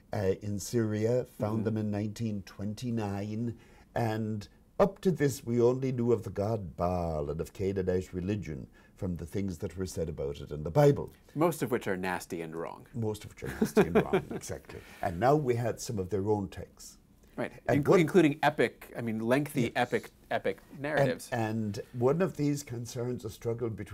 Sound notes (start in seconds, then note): 13.4 laughs